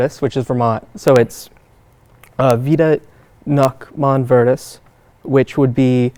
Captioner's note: speaks in Latin